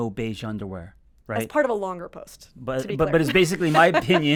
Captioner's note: laughs